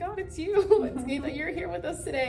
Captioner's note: both laugh